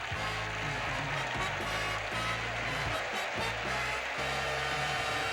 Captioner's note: audience applauding